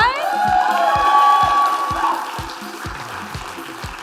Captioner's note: cheering